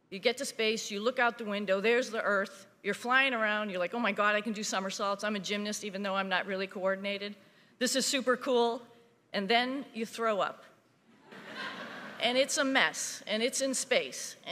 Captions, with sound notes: you get to space, you look out the window, there's the earth, you're flying around, you're like, oh my God, I can do somersaults. I'm a gymnast even though I'm not really coordinated. This is super cool. And then you throw up (audience laughing) and it's a mess and it's in space